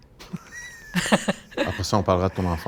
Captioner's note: laughs